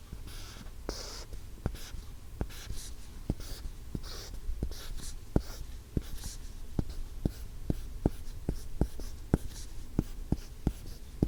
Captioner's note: writing sound